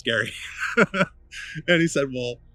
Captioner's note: laughs